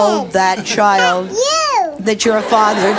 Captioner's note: audience laughs